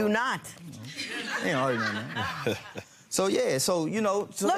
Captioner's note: crowd laughing